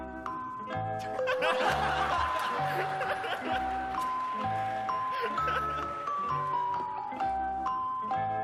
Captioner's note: laughter